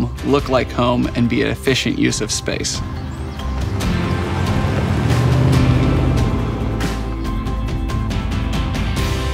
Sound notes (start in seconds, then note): 4.3 truck engine rumbling